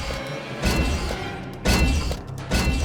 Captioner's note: heavy metallic footsteps